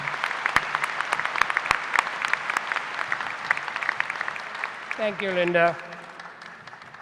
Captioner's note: applause